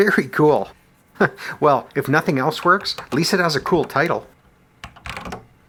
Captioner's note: chuckles